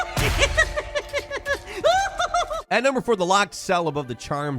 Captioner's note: character laughs